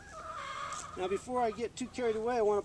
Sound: rooster squawking

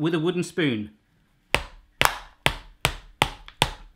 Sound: tapping

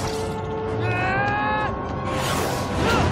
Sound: yelling

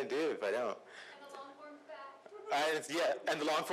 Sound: voiceover

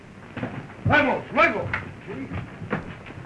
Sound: Spanish spoken audio

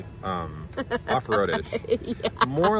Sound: laughs

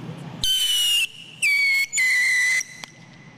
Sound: high pitched whine ending in small pop

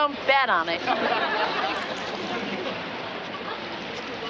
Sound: audience laughter

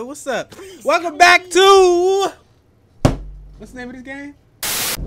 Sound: slamming desk

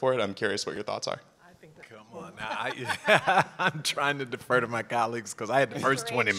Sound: laugh

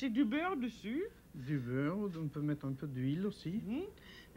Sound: speaking French

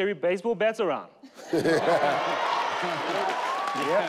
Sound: all laugh

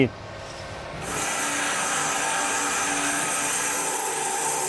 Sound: saw blade humming

